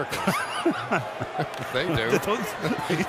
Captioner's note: laughs